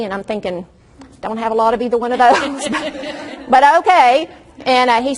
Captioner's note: audience laughs